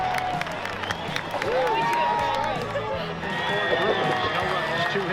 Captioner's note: chatter